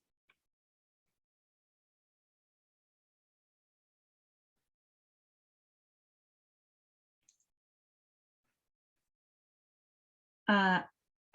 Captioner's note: silence